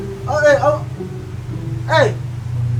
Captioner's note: stammering